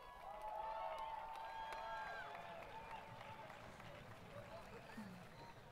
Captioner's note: applause; crowd Cheering